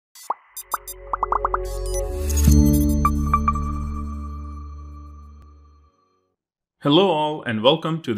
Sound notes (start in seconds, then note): 0.6 upbeat techno music; 1.0 bubbles popping